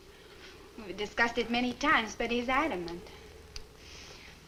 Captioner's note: none